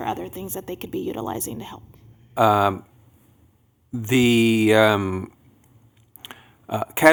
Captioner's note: multiple voices